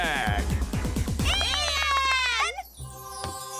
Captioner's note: cheering